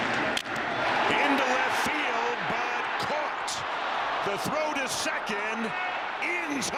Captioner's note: cheering